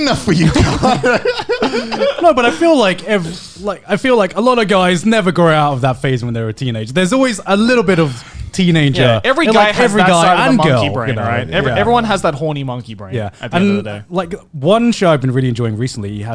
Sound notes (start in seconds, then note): 1.9 laughing